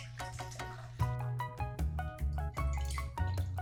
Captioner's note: liquid pouring